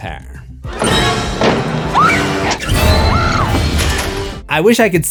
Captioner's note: screams